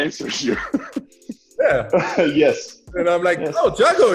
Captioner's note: laughs